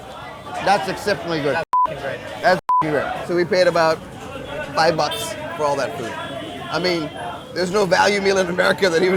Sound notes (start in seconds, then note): 2.6 beeps